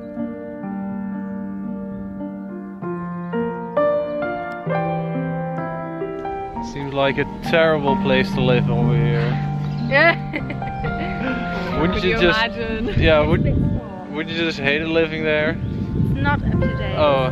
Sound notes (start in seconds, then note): 10.0 all laugh